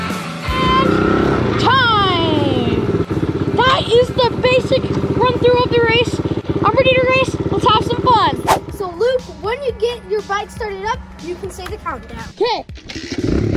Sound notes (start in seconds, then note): 8.4 swooshing; 13.3 engine revving